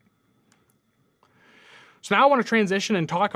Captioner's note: computer mouse clicking